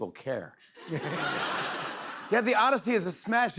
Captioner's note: laughter